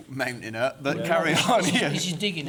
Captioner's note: chuckling